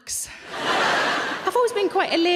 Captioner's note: audience laughing